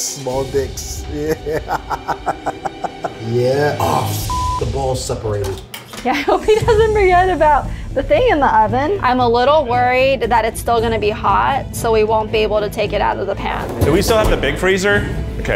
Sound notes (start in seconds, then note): 1.2 laughs; 4.2 beep